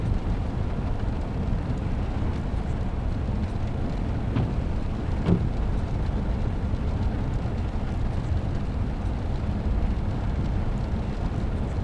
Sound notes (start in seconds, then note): 5.1 windshield wipers swishing in the rain